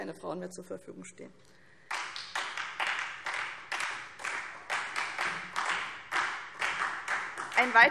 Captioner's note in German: Beifall SPD